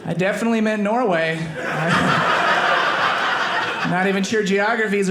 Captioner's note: audience laughing